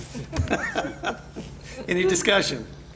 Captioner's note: board members chuckle